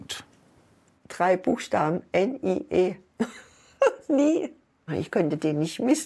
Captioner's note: laughs